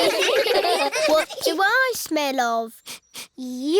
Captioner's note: all giggle; sniffs